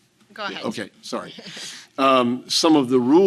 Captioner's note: chuckling